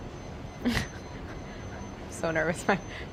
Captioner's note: laughs